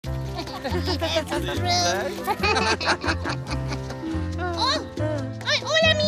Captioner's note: gentle music; laughing